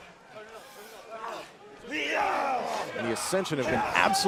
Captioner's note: crowd chatter